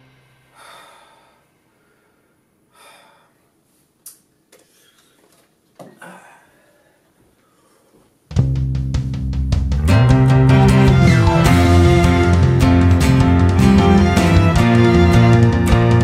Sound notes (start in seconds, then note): 0.5 exhale of deep relief and happiness